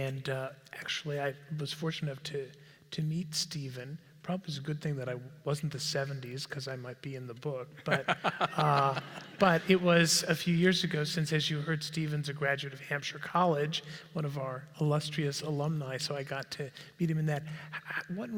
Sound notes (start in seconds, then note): 7.8 laugh